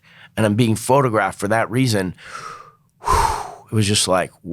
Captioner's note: huffs